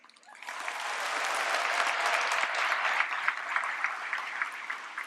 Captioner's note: applause